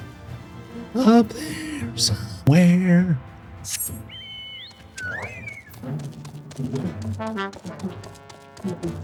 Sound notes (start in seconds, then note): 3.5 whispers; 3.7 whistles